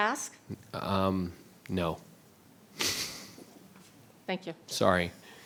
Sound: chuckles

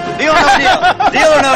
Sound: laughter

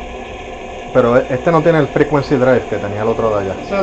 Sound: motor

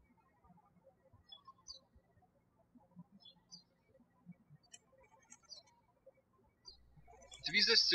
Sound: birds chirping

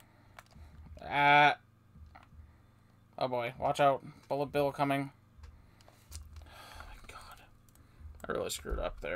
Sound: sigh

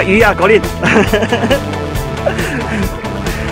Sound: laughing

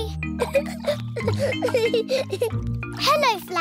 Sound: giggling

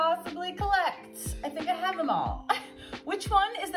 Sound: laughs

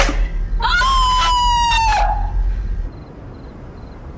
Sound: screaming

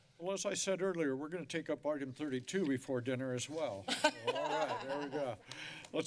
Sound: laughter

